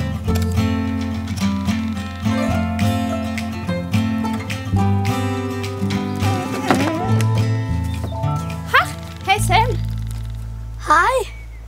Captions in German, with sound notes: (Winseln) Ha, hey Sam. Hi.